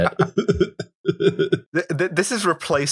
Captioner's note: laughter